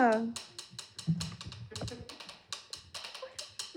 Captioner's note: scattered giggles and whimpers